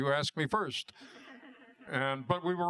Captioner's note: laughter